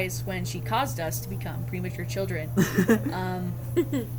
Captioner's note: laugh